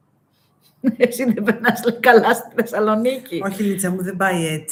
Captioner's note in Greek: γέλια